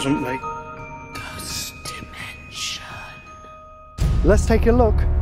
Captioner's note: bell chiming; ghostly Voice